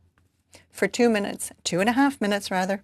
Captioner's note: speaking French